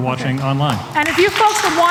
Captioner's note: applause